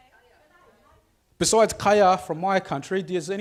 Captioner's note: speaks foreign language